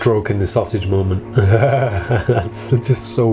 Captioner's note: laughs